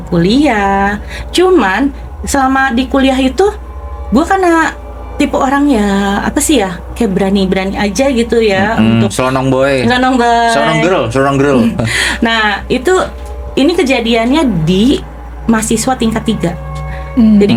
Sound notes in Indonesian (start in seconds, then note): 10.1 tertawa